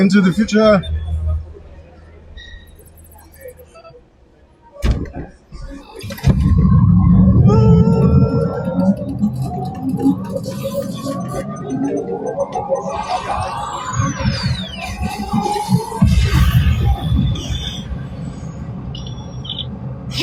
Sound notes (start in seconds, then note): 0.0 upbeat music; 6.0 car engine starting